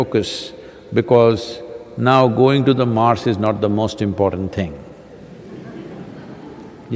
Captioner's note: laughter